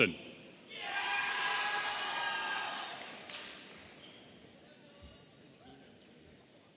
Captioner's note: audience cheering